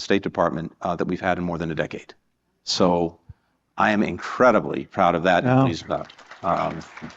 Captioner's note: applause